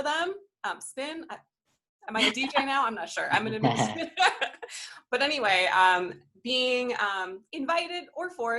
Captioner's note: laughter